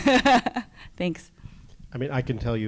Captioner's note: laughs